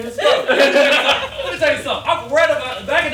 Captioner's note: all laughing